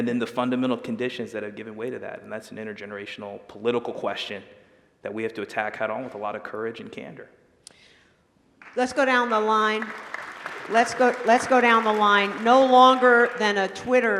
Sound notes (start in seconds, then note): 11.2 applause